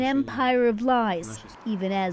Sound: speaking Foreign Language

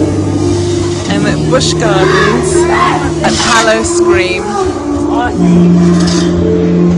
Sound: creepy music in background; shriek in background

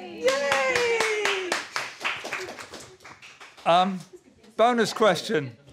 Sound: applause

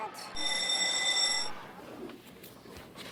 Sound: bell rang

